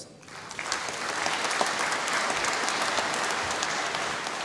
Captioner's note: applause